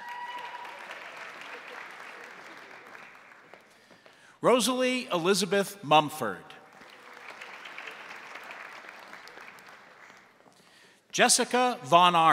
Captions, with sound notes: (crowd applauding) (crowd cheering) Rosalie Elizabeth Mumford. (crowd applauding) Jessica Von Arks.